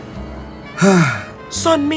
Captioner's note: sigh